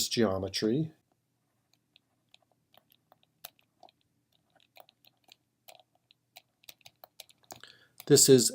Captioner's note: typing